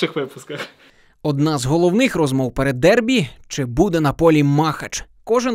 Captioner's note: voiceover